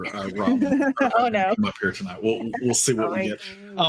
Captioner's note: giggling